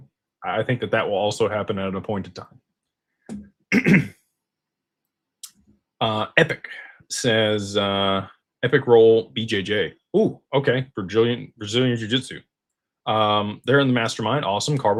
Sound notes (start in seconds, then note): 3.7 clears throat